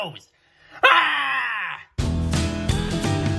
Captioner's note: screams